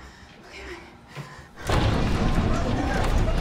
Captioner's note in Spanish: Golpeando la puerta